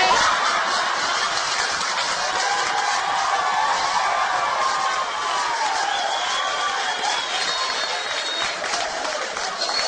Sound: the audience going wild

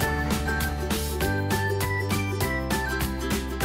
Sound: none

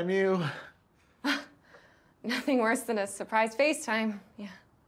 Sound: chuckles

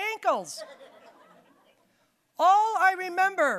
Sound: audience laughing

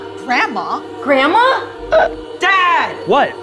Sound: Catherine choking

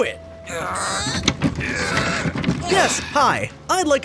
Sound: groaning

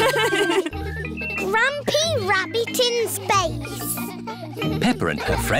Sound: children giggling

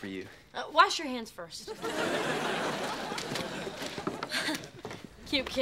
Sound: audience laughing

